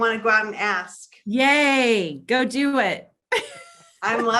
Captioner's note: laughs